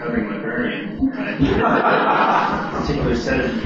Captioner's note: laughter